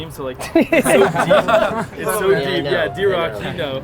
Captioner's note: group laughter